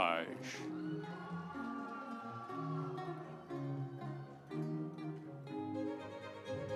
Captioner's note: audience cheering; instrumental music